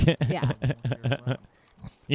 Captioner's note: laughing